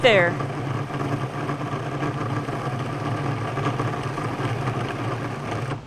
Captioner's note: food processor whirring